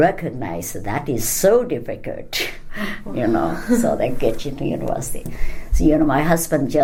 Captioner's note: laughs